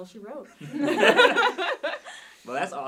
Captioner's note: hosts laughing